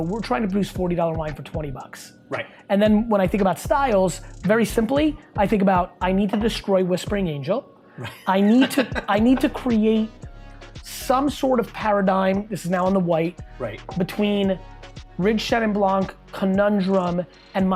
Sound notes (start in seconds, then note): 8.0 laughing